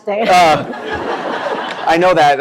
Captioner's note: laughter